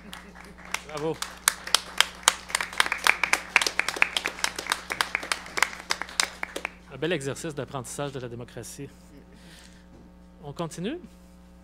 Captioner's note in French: applaudissements